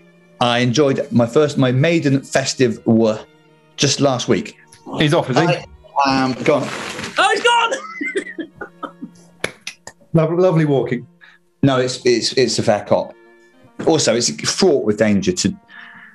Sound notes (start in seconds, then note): 7.4 laughing; 9.3 applauding